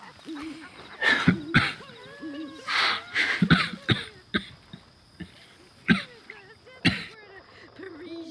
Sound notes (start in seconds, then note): 1.1 Hosea coughs